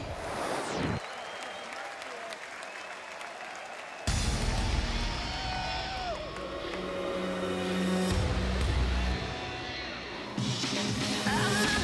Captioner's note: crowd cheering